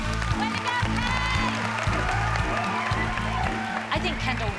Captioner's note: applause; cheering